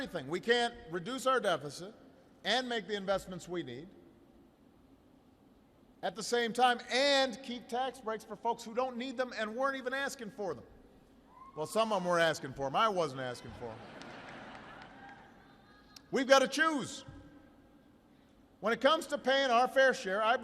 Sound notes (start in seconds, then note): 15.7 laughter